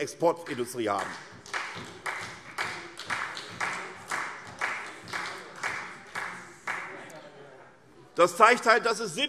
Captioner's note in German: Beifall SPD